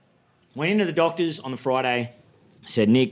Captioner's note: none